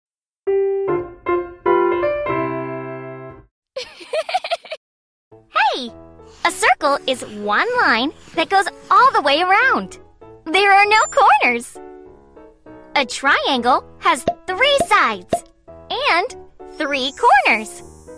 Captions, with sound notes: (uplifting music) (Sandy laughs) - Hey! A circle is one line that goes all the way around. There are no corners. A triangle has three sides and three corners.